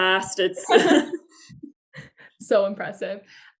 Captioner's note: laughter